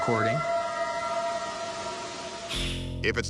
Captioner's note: eerie howl